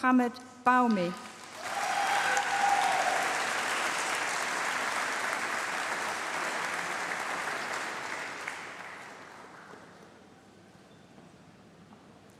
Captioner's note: applause